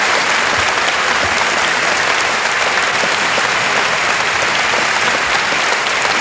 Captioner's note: applause